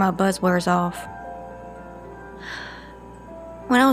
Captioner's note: Charlene sighs